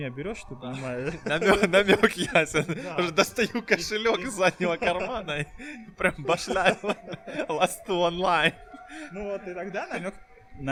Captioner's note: laughing